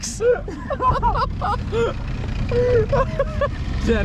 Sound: laughing

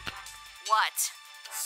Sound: on phone

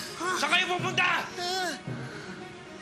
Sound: Shadow gasps

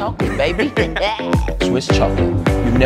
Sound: laughing

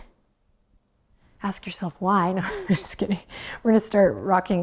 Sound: chuckles

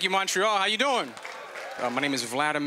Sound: applause

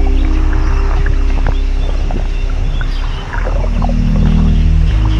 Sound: water bubble noises

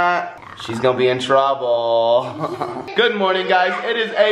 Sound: laughs

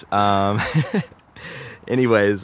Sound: laughs

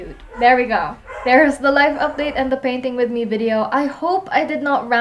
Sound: dogs barking in the background

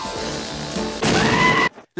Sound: goat scream and big boom-boom

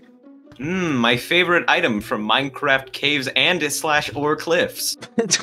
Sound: funny voice; laughs

